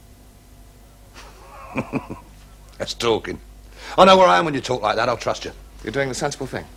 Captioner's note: chuckles